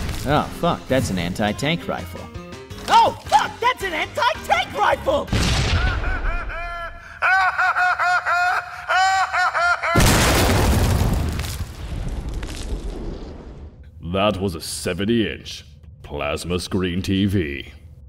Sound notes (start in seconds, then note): 5.4 boom; 5.7 laughing; 9.9 kaboom